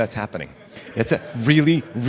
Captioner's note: laughter